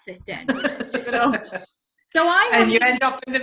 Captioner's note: laughing